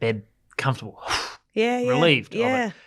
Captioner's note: sighs